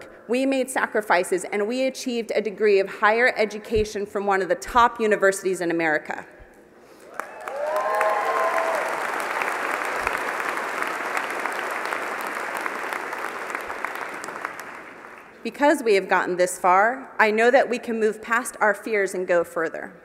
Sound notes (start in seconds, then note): 7.0 applause